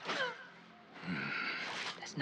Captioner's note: groan